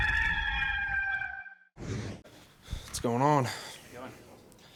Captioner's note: rooster cawing